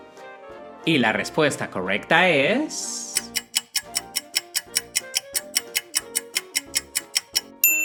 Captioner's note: clock ticking sound